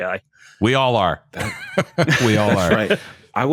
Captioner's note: laughter